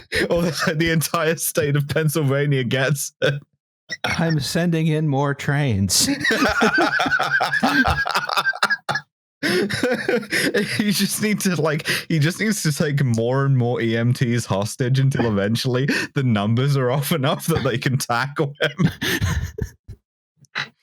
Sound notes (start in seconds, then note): 5.9 laughter; 18.5 laughter